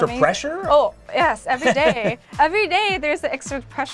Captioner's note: laughing